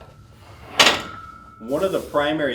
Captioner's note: metal clanks